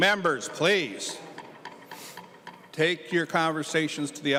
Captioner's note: gavel